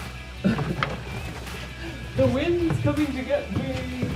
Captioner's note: wimper